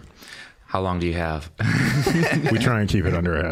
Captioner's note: all laughing